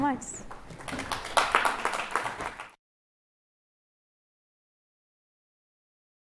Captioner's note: applause